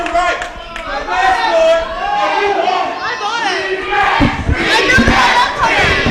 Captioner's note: fans chant 'rematch'